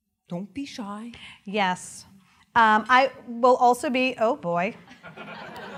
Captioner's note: laughter